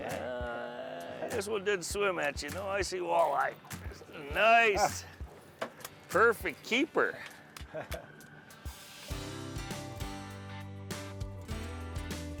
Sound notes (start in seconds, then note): 7.6 chuckling; 8.6 energetic music